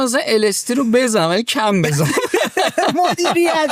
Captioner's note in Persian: خنده